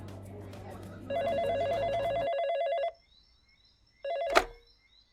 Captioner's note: phone ringing